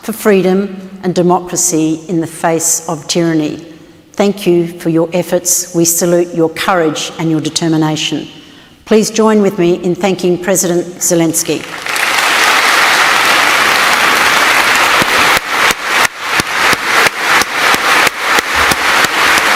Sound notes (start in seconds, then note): 11.5 applause